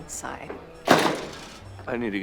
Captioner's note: door slams